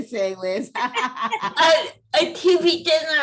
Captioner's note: laughter